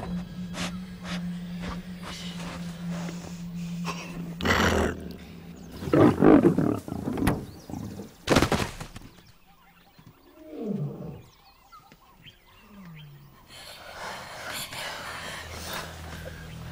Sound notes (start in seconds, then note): 6.1 Growling; 13.9 Ranting